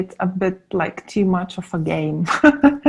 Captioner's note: laughing